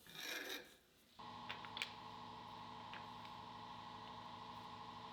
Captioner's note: machine motor hums